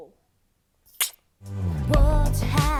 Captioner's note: kisses